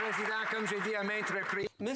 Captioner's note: some Applause